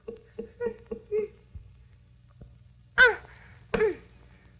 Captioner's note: Betty cooing; Betty grunting